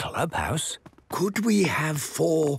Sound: speaking quietly

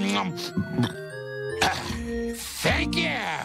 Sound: belches

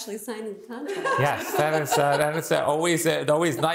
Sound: laughs

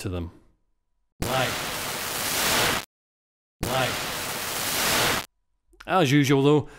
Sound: sample is played with post-reverb distortion

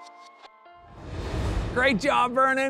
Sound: transition whooshing

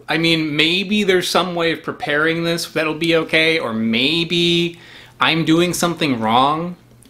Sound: none

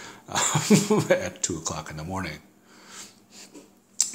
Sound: both laugh

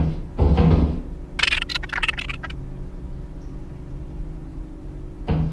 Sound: Happy Hoarding Bug Sounds

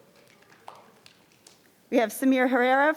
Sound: crowd clapping

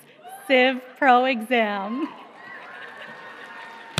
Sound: applause

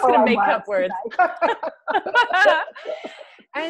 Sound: laughs

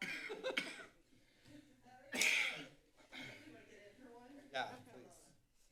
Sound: coughing; laughter; background chatter; coughing

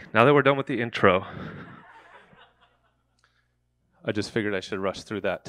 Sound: audience laughing

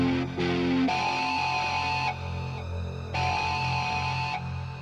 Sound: siren blaring

